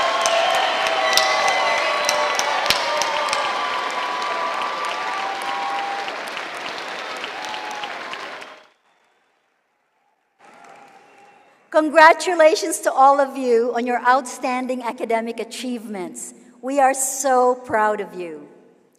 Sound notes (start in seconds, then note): 6.1 cheering and applause